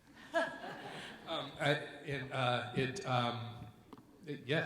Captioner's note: audience members laugh